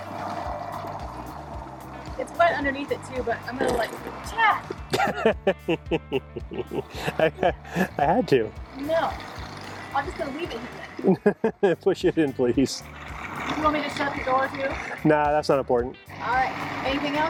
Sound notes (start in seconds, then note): 0.3 upbeat music; 4.8 chuckles